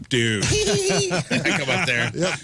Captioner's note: laughing